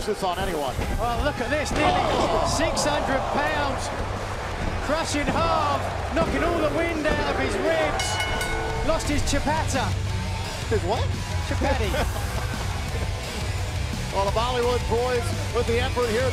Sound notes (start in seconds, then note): 7.9 bell ringing; 11.6 laughter